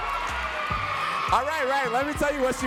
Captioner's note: audience cheers loudly